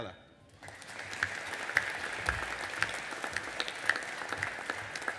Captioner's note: audience applauding